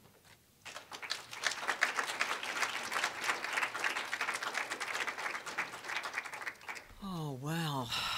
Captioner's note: applause